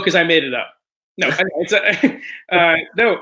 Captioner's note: chuckles